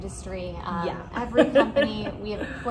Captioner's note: chuckles